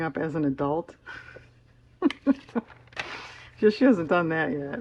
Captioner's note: laughs